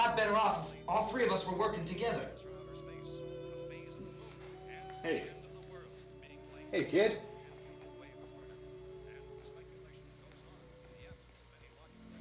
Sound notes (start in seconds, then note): 4.0 murmuring; 7.2 murmuring